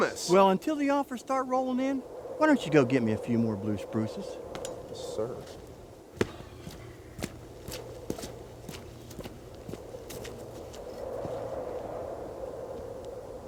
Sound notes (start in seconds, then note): 6.1 footsteps crunching; 6.8 wind howling